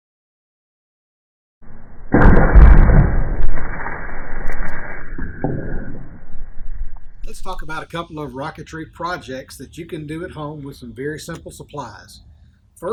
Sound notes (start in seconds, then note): 1.7 rocket banging